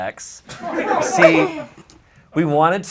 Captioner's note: audience laughs